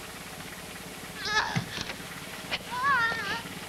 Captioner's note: jill cries out in agony repeatedly